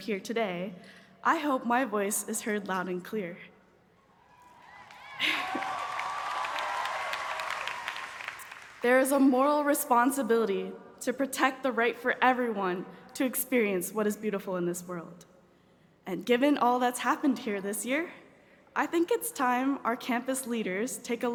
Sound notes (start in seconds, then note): 4.2 cheers and applause